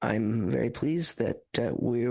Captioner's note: speaking French